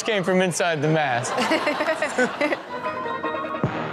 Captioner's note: all laugh; upbeat music